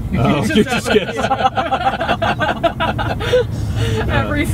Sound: group laughing

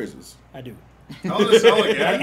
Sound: laugh

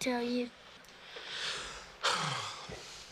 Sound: sighs

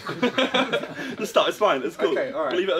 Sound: laughing

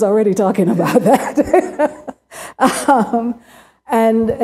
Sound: laughter

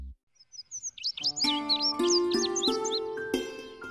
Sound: birds chirping

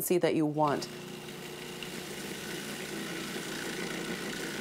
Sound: mixer whirring

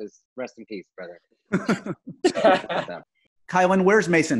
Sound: laughing

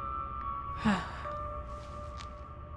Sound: sighs

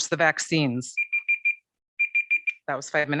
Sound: timer beeping

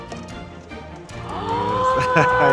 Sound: gasping; laughing

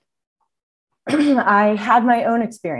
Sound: coughs

